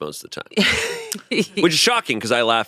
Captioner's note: laughs